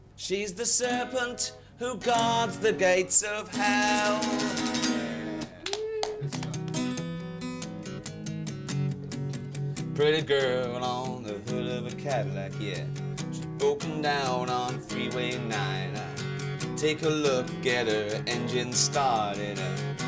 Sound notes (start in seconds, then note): 5.2 clapping; 7.2 guitar music